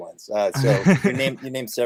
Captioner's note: laughs